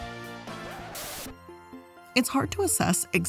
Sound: record scratches

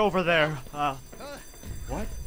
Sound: whimper

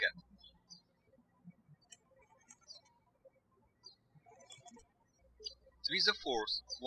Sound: birds chirping

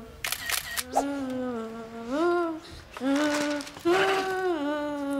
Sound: camera shutter clicking

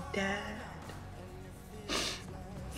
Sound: sniffles

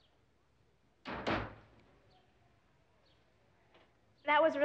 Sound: door closing

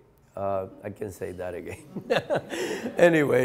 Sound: laughs

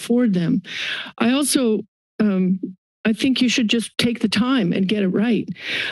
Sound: inhales

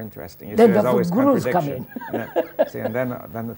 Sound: laughter

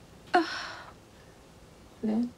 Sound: sighs

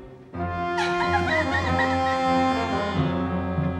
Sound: sobs

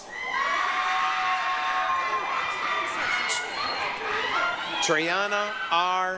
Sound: applause, cheering

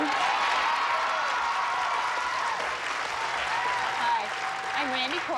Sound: audience applauding

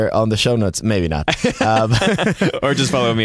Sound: laughter

